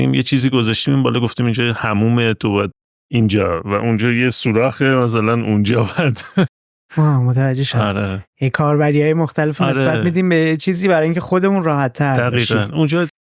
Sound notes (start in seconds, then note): 5.8 laughs